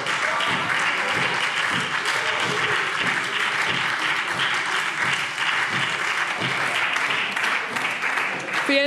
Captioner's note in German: Beifall SPD - Lachen CDU und AfD